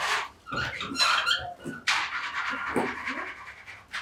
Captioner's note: tools screeching